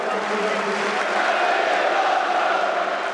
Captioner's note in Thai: แฟนๆ ร้อง ♫ ชาบี อลอนโซ่!